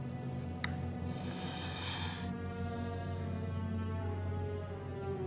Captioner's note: snake hissing